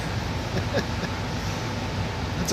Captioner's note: laughs